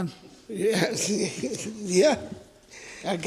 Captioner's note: laughs